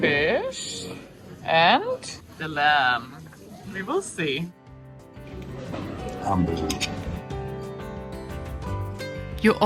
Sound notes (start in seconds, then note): 5.6 diners chattering; 6.6 man speaking in foreign language